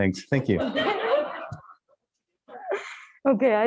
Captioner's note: audience laughs